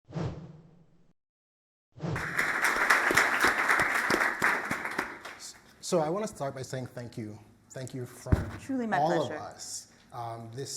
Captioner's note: applause